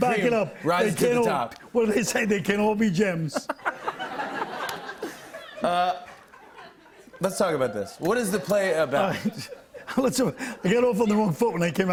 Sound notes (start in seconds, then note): 3.3 laughter; 8.2 laughs